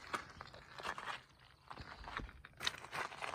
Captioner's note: the sound of rocks crunching